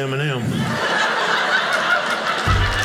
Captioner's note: audience laughing